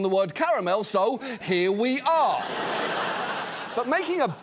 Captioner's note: studio audience laughs